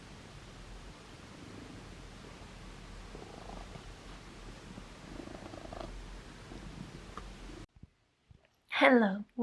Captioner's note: background noise and cat purring